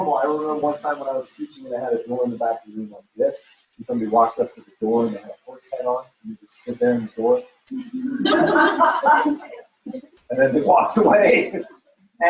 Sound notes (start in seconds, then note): 8.0 laughter